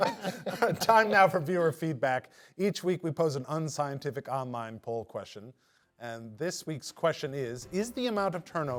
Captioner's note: laughter